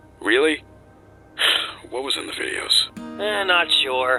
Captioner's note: sigh